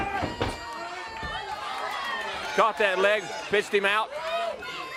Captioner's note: crowd cheering